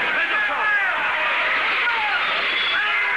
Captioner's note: crash